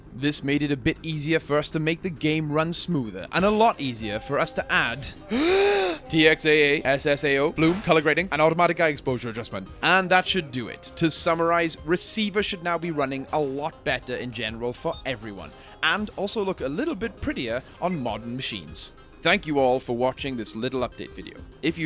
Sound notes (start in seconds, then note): 5.2 takes deep breathe